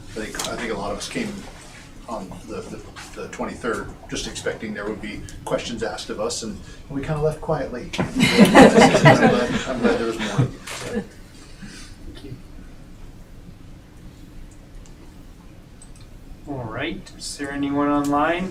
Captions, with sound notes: I think a lot of us came on the 23rd just expecting there would be questions asked of us and we kind of left quietly. (laughing) I'm glad there was more. Thank you. All right, is there anyone online